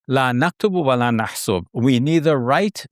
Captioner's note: speaking Arabic